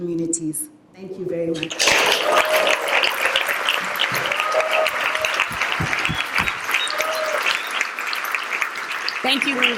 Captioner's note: applause